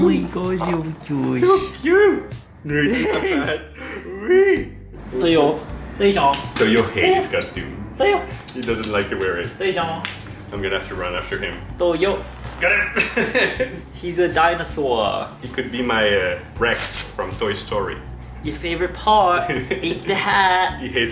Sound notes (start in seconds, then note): 2.7 laughing